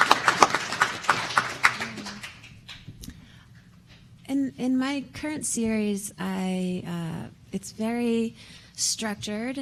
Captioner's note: applause